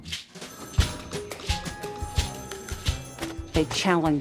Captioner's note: keys clacking, phones ringing